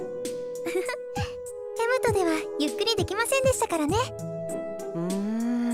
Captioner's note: giggle